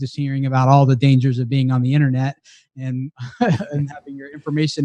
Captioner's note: laughs